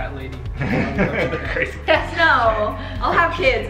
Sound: laughs

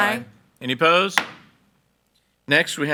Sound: gavel bangs

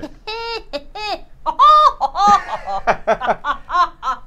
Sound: laughs maniacally

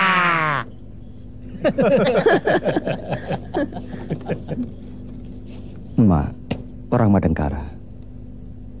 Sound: laughs

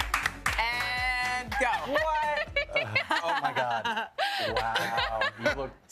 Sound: applause

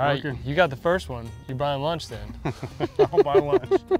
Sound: laughs

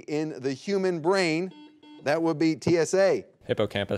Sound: buzzer beeping

